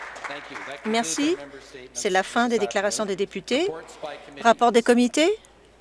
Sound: some Applause

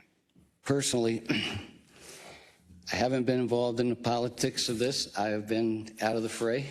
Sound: cough

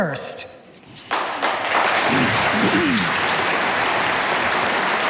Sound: audience applauding

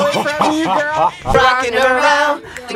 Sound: laughs

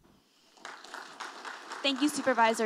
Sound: audience applauding

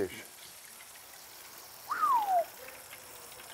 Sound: whistles

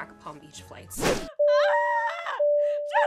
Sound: crying as seat buzzers ring

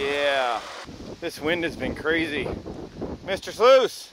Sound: wind howling

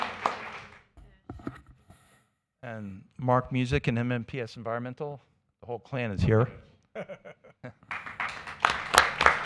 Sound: applause

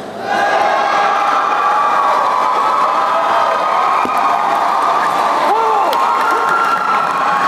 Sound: applause

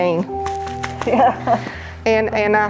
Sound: chuckles

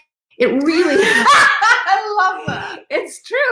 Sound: laughs

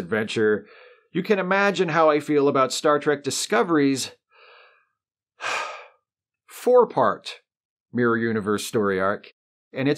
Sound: sigh

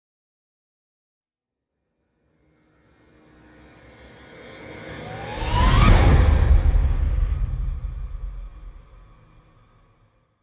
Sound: sound of hit and riser

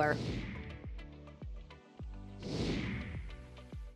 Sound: logo whooshing

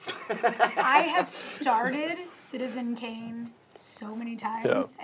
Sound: laughs

